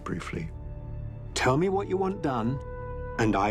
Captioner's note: narrator reading on-screen text